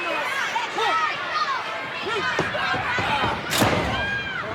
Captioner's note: audience chattering